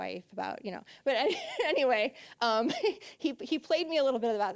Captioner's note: laughing